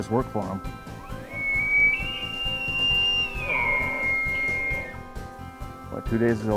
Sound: elk Bugle

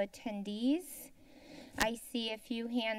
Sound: inhales

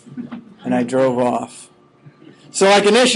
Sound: students chuckling

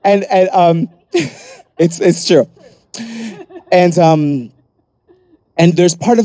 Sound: laughs

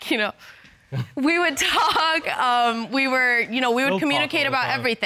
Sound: chuckles

